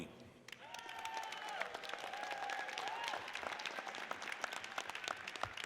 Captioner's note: audience cheers and applauds